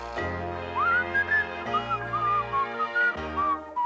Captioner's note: whistling